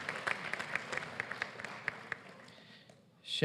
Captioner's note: applause